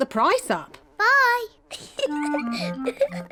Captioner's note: giggles